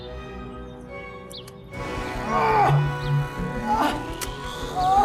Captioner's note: screaming in pain and dropping gun